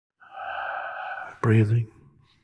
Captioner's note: sighs